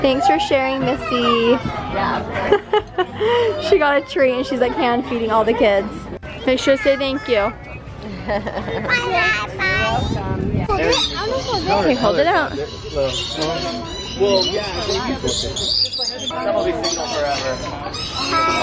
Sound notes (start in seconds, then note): 2.4 laughing; 8.0 laughing